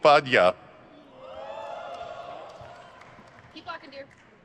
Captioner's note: crowd cheers